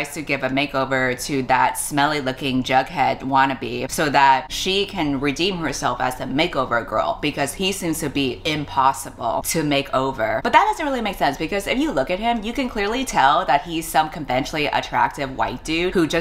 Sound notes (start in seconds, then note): none